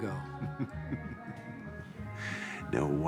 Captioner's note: Kane chuckling